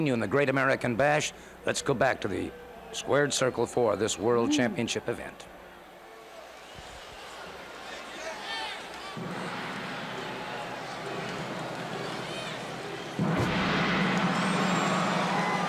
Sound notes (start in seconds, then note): 6.1 crowd cheering; 8.7 crowd chatter